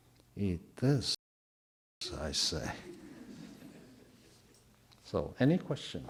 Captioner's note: audio drop